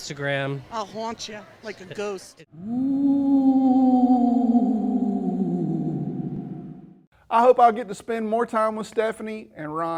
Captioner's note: ghostly sound